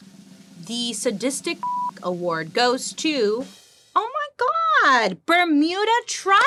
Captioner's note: beep